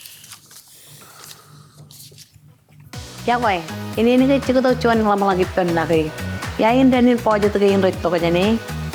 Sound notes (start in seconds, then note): 3.6 presenter speaking in foreign language